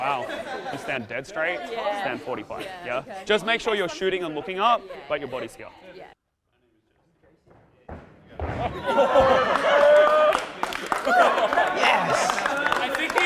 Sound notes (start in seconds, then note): 7.4 feet thudding; 8.7 cheerleaders laughing and clapping